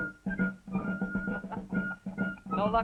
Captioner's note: laughing